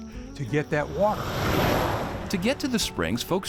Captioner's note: gentle music; truck rumbles